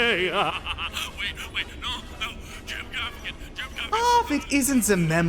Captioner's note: over speaker